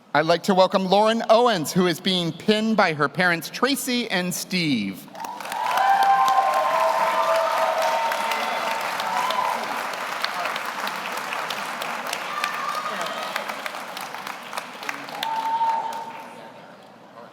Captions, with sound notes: - I'd like to welcome Lauren Owens, who is being pinned by her parents, Tracy and Steve. (audience cheers) (audience applauds)